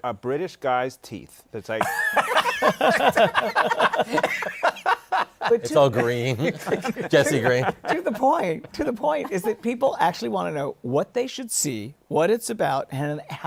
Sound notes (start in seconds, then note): 1.8 laughter